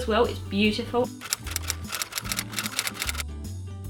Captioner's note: typewriter sound effect